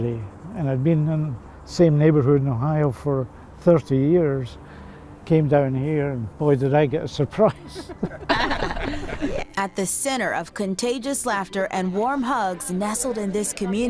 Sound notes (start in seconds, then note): 7.5 all laughing